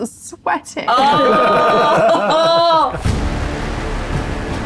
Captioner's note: group laughs